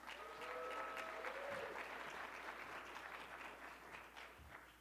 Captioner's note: audience clapping